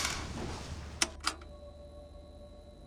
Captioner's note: gloomy music; button clicks; gloomy music